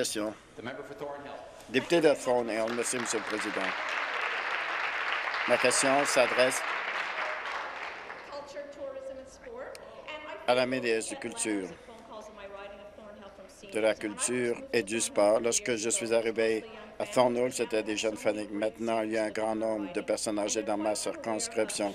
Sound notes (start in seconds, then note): 6.6 applause